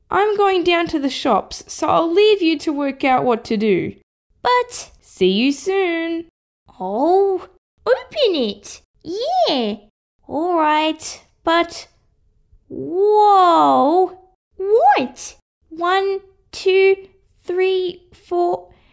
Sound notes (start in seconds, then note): none